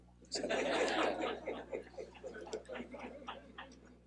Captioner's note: laughing